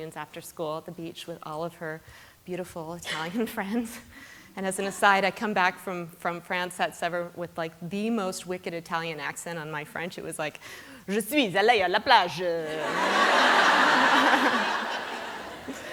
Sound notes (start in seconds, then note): 10.7 non-english speech; 12.7 laughter